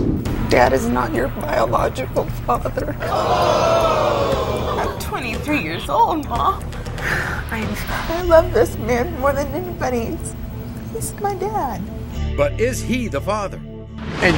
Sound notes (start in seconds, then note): 3.0 audience screaming